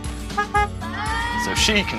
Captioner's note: honk, honk